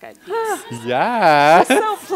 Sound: laughs; sighs

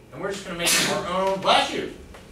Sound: student sneezes

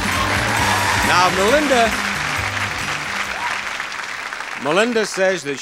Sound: audience clapping

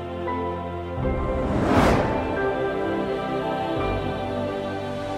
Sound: air whooshing

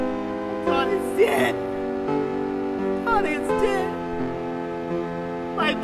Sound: sobbing

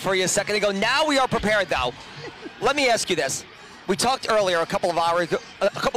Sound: laughter

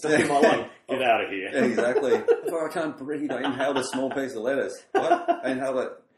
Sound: laughs

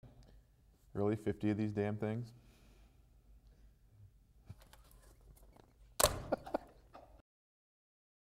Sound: laughter

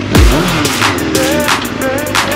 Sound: vroom

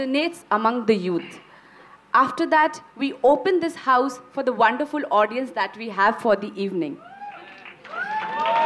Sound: cheers/Applause

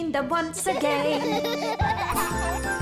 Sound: laughter

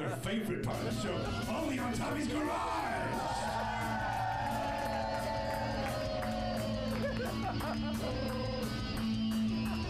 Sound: rock music; audience cheers; upbeat rock music

